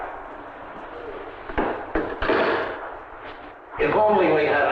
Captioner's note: receiver clacking